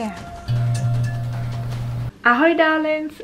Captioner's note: light buzzing